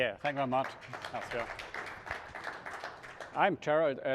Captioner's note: applause